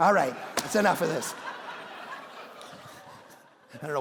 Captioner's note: congregation laughing